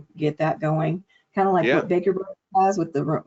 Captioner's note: audio distortion